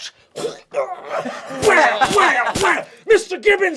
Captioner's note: choking and grunting